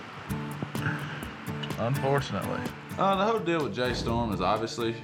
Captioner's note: chuckles